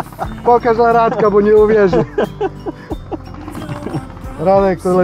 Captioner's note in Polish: śmiech